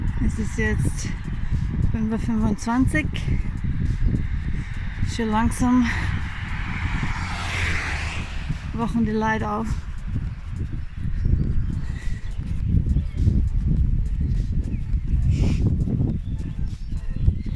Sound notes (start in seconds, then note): 11.6 wind